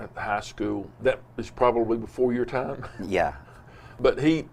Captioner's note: laughs